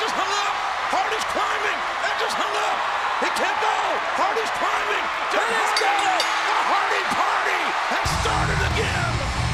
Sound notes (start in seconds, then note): 5.5 bell rings